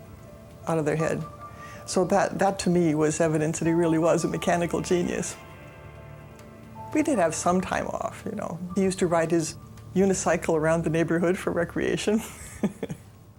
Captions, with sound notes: of their head. So that to me was evidence that he really was a mechanical genius. We did have some time off, you know. He used to ride his unicycle around the neighborhood for recreation [laughing].